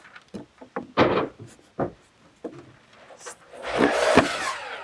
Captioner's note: wood clunking; saw buzzing